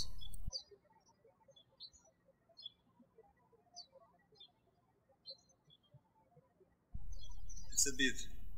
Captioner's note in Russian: птички щебечут